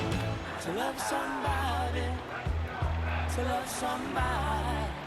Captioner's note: screaming